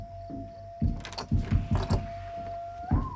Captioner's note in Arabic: يفتح الباب